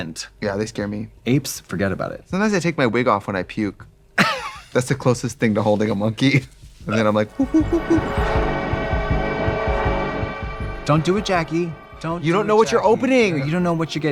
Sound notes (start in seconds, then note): 4.3 Katya laughs; 6.9 imitates monkey noises; 8.9 dark dramatic music